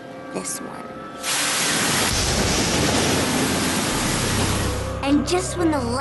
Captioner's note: thunder crashes